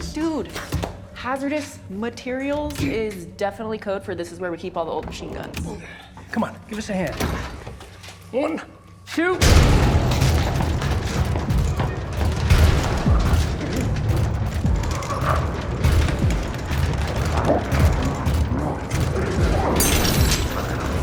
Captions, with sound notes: - Dude, hazardous materials is definitely code for this is where we keep all the old machine guns. - Come on, give us a hand. - One, two! (door rattles) (dramatic music) (growling echoes faintly) (door rattling)